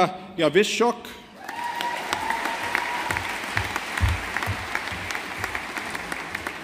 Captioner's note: audience applauding